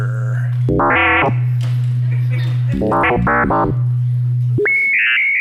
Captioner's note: computer-generated sound